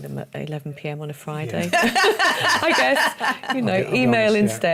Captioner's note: laughter